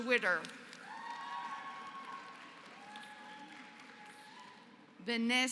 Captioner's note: applause